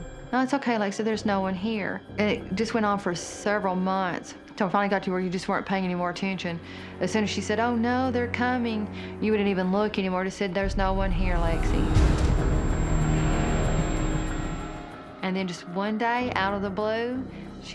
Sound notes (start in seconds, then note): 11.3 shrill, piercing note plays